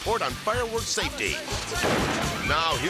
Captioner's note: fireworks exploding